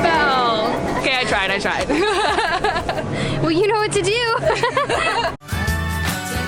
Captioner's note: laughter